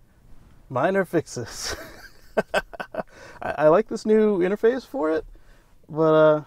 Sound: laughter

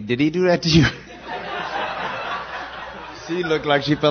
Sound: laughter

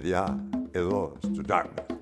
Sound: speaking foreign language

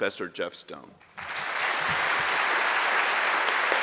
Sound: applause

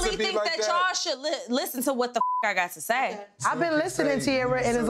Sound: beep

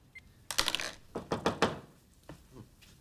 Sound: knocking at the door

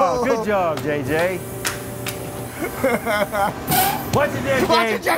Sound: clapping; machine squeaks

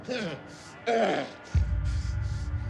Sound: groans

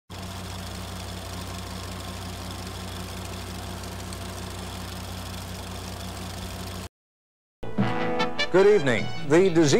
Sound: old timey projector sounds

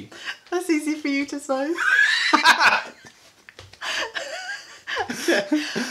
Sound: laughter ensues

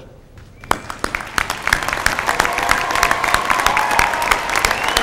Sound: applause

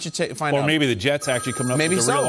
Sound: phone ringing

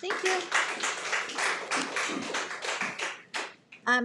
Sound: applauds

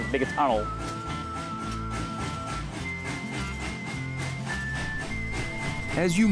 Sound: whistling music; train chugging

